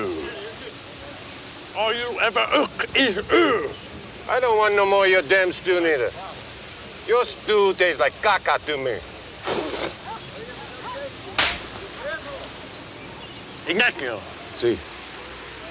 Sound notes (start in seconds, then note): 9.4 Ignacio spits; 11.4 hand slaps